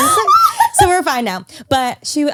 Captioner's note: laughs